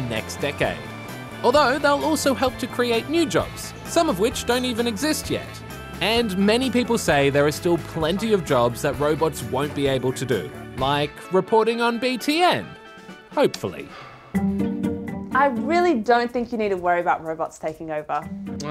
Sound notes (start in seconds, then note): 13.9 sighs